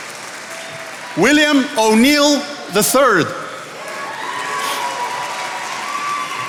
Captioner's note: attendees applauding